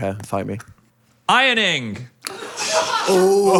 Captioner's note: crew laughing